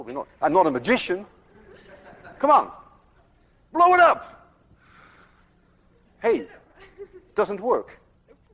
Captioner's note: class laughs